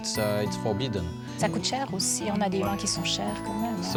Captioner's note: speaking native language